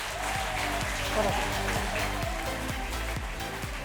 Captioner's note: applause and music